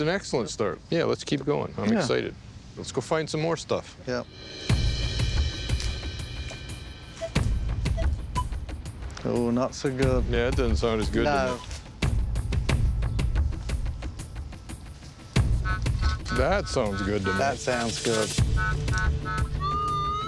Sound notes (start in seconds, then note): 7.9 beeping; 14.8 beeping